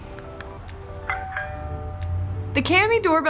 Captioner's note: light music; doorbell ringing